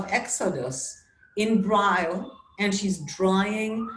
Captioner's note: sirens blaring